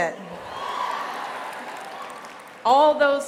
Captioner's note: applause